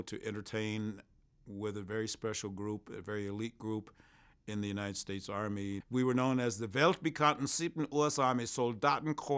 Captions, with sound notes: to entertain with a very special group, a very elite group in the United States Army. We were known as the (speaks in German);